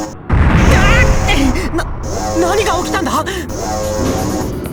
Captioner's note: panicked cry